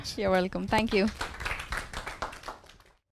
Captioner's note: audience applause